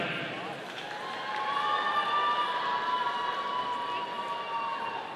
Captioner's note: audience cheering